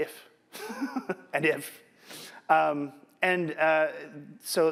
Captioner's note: laughs